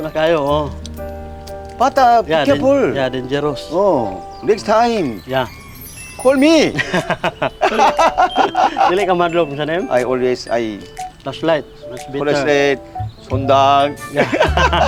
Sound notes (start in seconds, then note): 6.7 both laughing